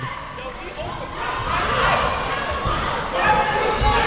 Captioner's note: crowd cheering